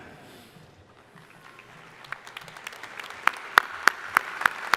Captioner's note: crowd applauding